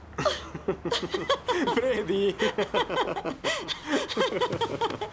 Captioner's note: laughing